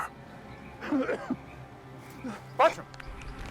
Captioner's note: bartram coughs